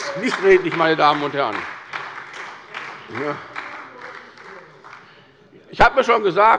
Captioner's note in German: Beifall bei der SPD